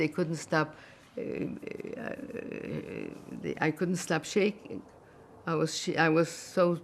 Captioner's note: mumbling